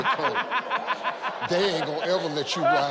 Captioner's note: laughing